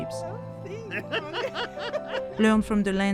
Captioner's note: laughs